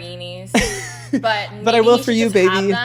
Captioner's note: laughs